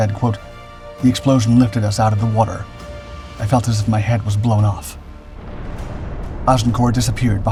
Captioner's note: the explosion